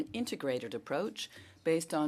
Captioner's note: speaking French